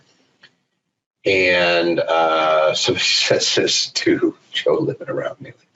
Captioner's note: laughing